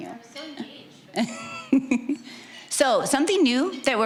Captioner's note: giggling